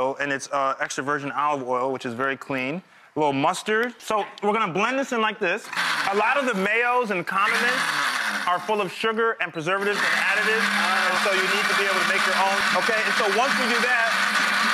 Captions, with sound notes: and it's extra virgin olive oil, which is very clean. A little mustard. So we're gonna blend this in like this. A lot of the mayos and condiments are full of sugar and preservatives and additives, (blender whirs) so you need to be able to make your own. Okay, and so once we do that...